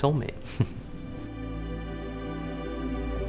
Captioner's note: giggles